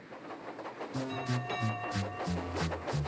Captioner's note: clang clang